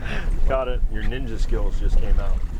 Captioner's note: laughing